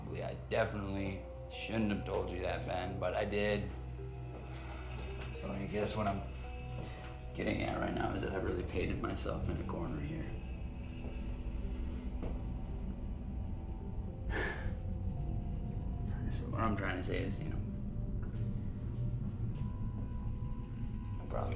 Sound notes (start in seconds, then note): 11.1 tense music; 14.3 Tyler sighs; 15.2 tense music; 18.2 tense music